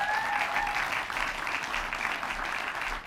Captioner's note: applause